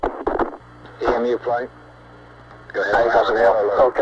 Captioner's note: mission Control Audio